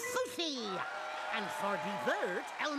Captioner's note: audience cheering